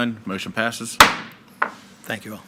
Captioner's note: gavel bangs